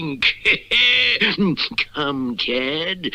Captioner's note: Simon Bar Sinister Laughs